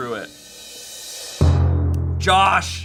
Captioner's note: thud booms